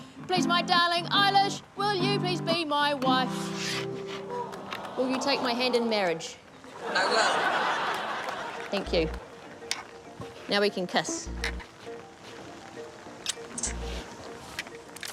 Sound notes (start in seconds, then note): 4.2 audience 'aww's; 6.7 audience laughs; 13.2 mwah!